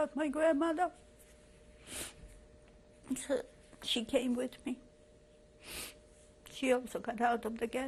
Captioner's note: pauses for 3 seconds